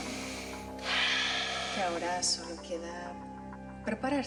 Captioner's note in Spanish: Exhalación profunda de él